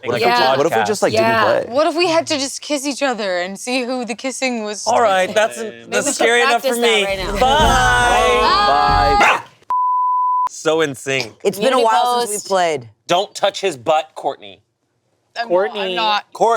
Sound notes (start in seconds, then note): 9.7 beep; 10.0 screams